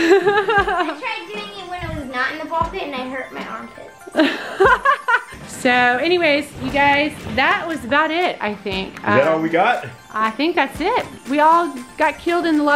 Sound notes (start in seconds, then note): 0.0 laughs; 4.1 laughs